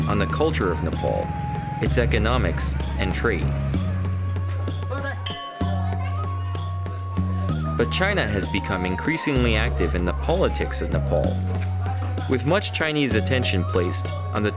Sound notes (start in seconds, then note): none